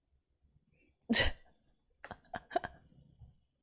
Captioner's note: laughs